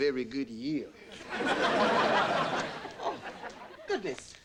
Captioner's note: audience laughing